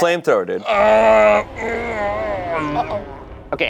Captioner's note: groaning